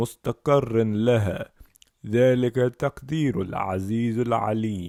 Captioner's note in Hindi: उर्दू